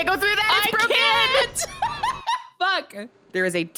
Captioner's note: laughs